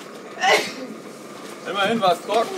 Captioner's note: sneezes; sneezes again